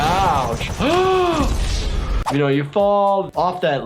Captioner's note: gasping